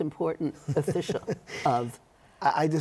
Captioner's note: laughter